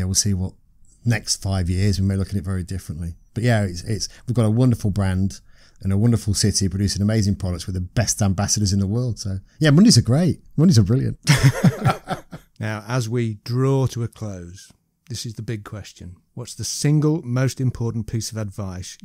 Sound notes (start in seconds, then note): 11.2 laughter